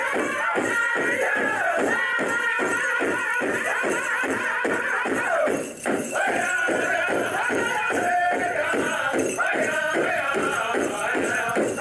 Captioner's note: native american music plays; speaks a native american language